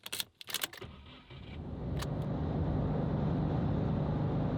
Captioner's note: engine starts